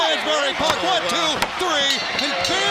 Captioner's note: bell ringing